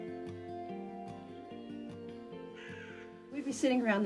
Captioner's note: bird cawing